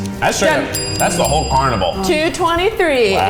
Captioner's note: bell rings